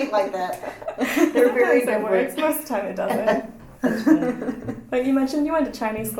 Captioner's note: laughs